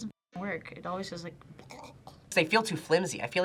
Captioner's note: gags